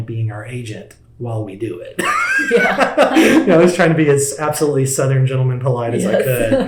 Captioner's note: laughs